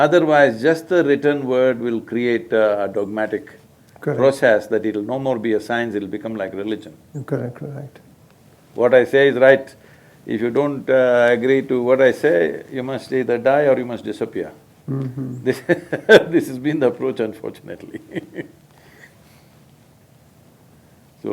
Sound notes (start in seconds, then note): 14.9 laughs